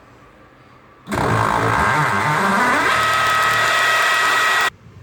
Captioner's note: drill buzzing